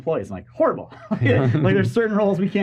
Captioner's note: laughing